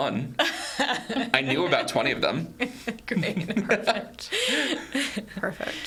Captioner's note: laughs